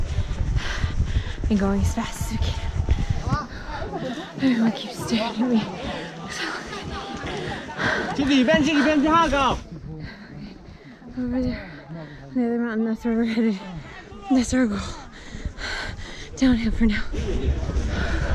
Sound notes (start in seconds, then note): 7.9 heavy tired breathing